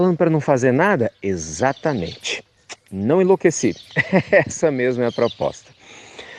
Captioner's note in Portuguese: Risos